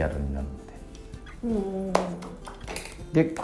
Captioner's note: claps